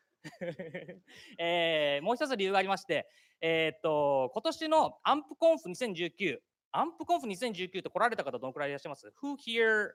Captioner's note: speaking japanese